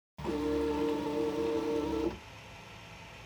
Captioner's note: machine whirs